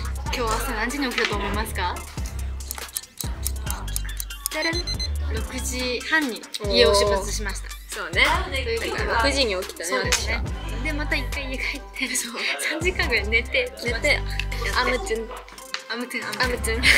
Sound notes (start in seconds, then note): 2.5 tick Tock